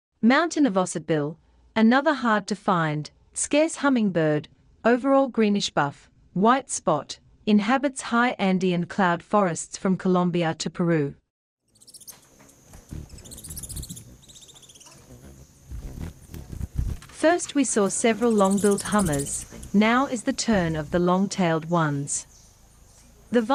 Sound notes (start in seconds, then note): 11.7 birds chirping; 11.7 buzzing